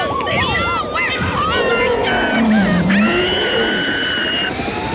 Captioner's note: screams; gorilla growls; police sirens howl